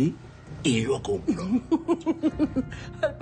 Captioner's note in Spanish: Risas